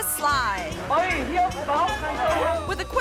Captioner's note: onlookers speaking in foreign language